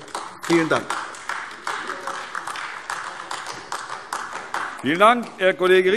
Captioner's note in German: Beifall AfD